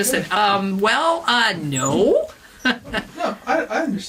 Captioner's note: laughs; laughs